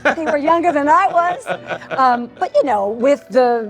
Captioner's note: laughs